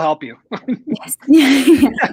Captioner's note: laughter